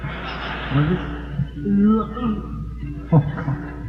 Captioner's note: laughs “what?”; laughs - Oh god; gags